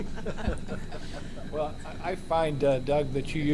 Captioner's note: laughter